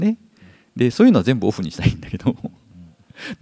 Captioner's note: chuckles